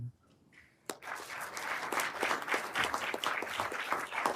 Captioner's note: everyone applauding